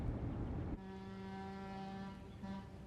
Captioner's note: boat horn blowing